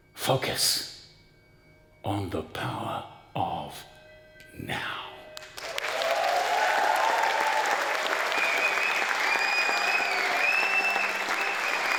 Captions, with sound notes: Focus on the power of now. (audience clapping and whistling)